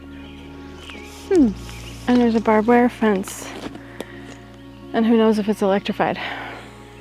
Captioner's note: birds chirping